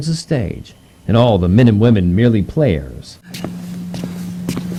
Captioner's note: shuffling on